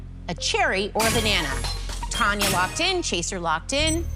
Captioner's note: chime, chime